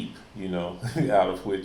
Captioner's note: chuckles